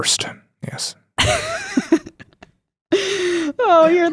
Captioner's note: chuckles